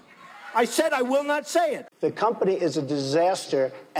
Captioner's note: laughing